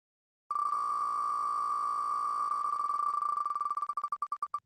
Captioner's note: ticking of wheel spinning